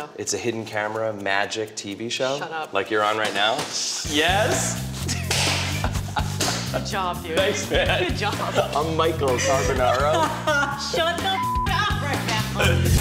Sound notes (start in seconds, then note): 5.0 laughs; 9.9 laughs